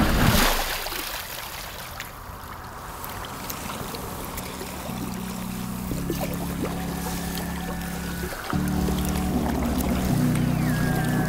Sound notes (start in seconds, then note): 0.2 splashing; 4.4 paddling